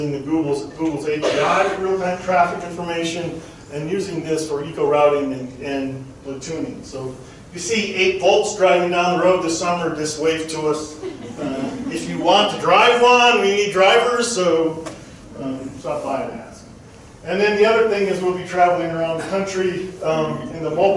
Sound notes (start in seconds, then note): 10.9 crowd chuckling